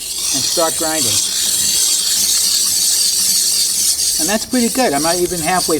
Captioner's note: ice screeching